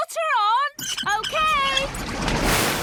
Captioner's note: wheel squeaking